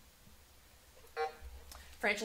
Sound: buzzer sounding

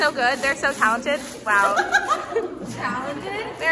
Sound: laughs

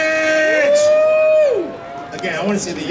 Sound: audience cheering

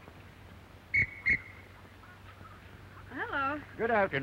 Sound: whistle blow

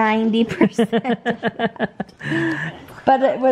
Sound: laughing

